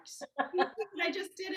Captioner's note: laughs